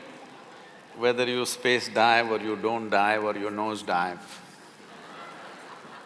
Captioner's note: laughter